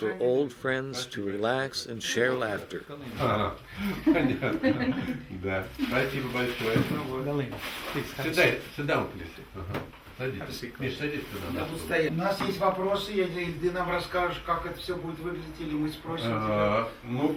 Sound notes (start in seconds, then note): 3.6 all laughing; 6.1 speaks in the Russian language; 12.0 speaking in the Russian language